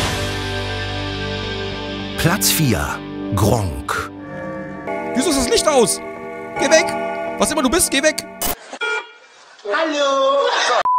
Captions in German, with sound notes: (Rockmusik) (Glockenläuten) Wieso ist das Licht aus? Geht weg, was immer du bist! (Hupe) Hallo!